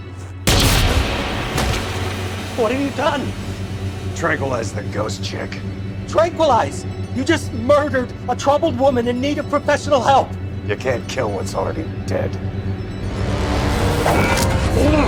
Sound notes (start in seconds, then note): 0.4 gun fires; 0.6 ominous music; 12.9 ominous music continues